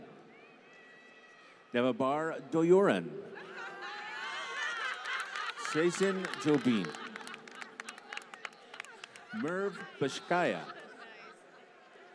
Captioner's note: laughter; applause